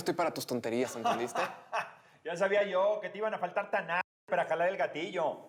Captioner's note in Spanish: risas